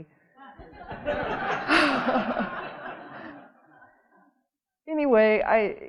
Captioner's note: audience laughing